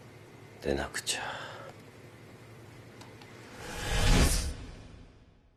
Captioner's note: eerie reverb rises